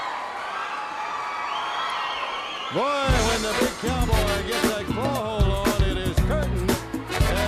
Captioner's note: crowd chatter